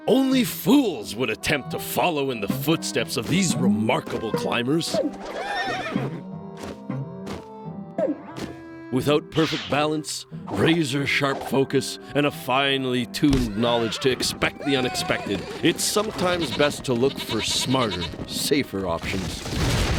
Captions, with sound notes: ONLY FOOLS WOULD ATTEMPT TO FOLLOW IN THE FOOTSTEPS OF THESE REMARKABLE CLIMBERS. (whinnies) WITHOUT PERFECT BALANCE, RAZOR-SHARP FOCUS, AND A FINELY TUNED KNOWLEDGE TO EXPECT THE UNEXPECTED, IT'S SOMETIMES BEST TO LOOK FOR SMARTER, SAFER OPTIONS.